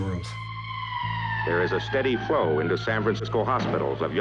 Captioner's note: sirens